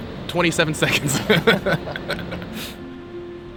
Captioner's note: both laugh